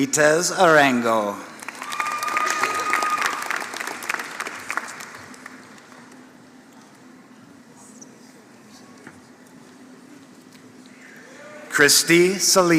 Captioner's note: applause